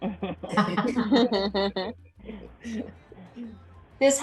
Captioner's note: laughter